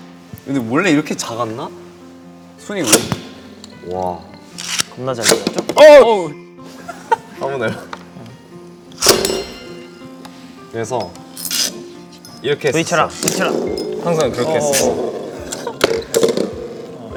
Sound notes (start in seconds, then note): 6.7 giggling